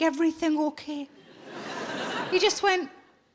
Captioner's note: audience laughing